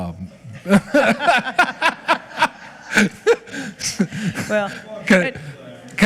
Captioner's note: laughing